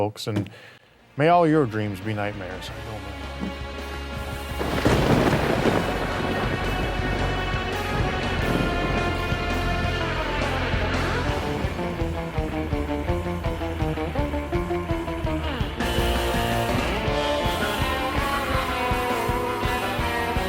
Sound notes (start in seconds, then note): 3.6 uptempo rock music; 4.2 thunder rumbles